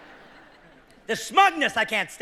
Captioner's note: coughing